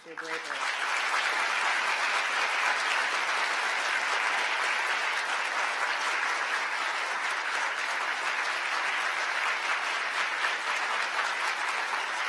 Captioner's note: applause